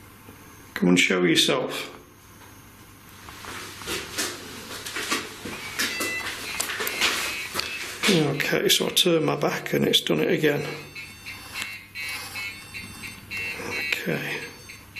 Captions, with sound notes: Come and show yourself. (REM Pod chimes) Okay, so I turn my back and it's done it again. Okay.